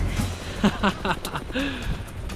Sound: laughing

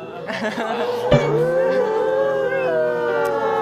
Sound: suddenly starts crying

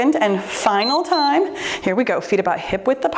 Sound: timer beeps

